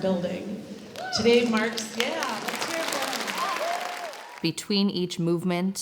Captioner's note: audience claps